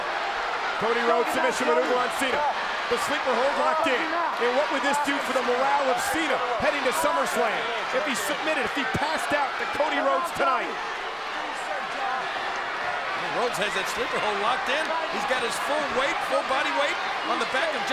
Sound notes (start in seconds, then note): 10.7 crowd cheering